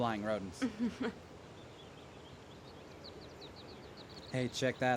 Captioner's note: Daisy chuckles